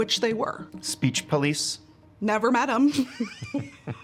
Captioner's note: laughs